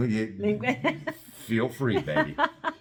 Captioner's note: laugh